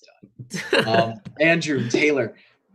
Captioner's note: group laughing